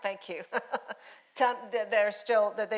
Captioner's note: laughing